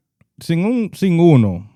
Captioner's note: speaking In Foreign Language